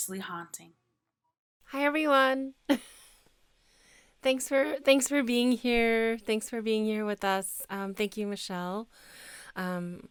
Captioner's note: chuckles